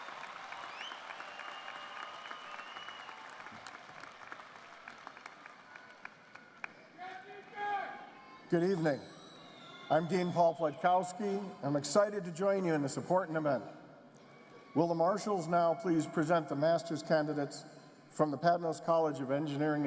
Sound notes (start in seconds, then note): 6.7 applause